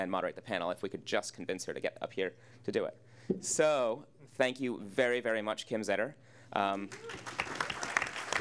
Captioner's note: applause